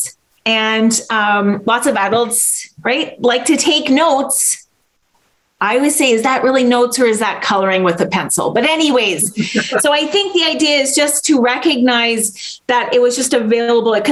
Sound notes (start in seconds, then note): 9.2 laughs